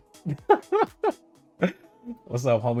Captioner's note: laughs